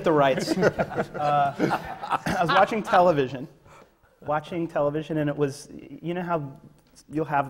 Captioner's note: laughter